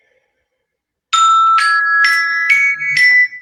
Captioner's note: alarm